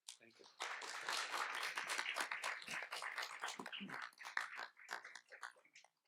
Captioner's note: audience and panelists applaud